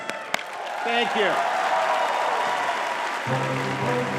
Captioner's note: audience clapping; dramatic music